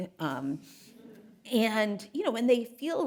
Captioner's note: audience chuckling